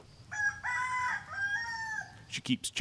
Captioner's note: rooster crows